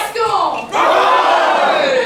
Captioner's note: cheers